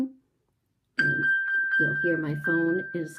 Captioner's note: watch pinging